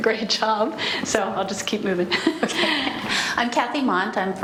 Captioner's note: laughs